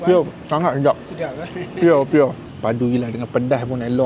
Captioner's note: laugh